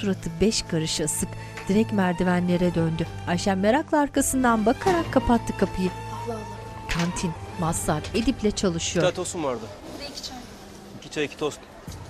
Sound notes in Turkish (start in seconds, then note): 0.0 Müzik - Duygusal; 4.8 Kapı kapanma sesi